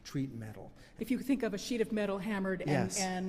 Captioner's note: voiceover